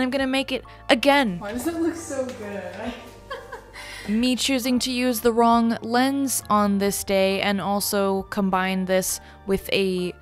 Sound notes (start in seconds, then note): 2.8 laughs